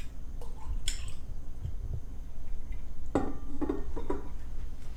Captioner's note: liquid sloshing